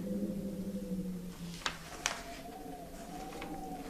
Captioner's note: wind whistling